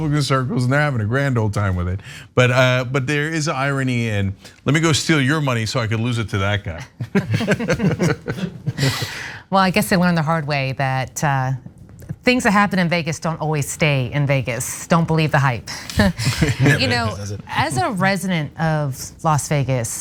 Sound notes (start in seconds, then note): 7.1 laugh; 15.9 laugh